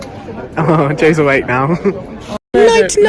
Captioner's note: laughs